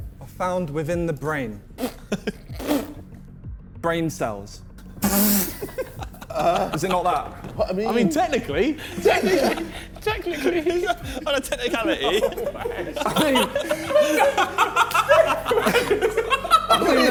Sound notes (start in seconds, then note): 1.9 men scoffing; 5.1 Vik laughing; 13.6 men laughing